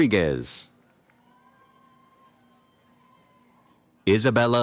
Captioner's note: cheering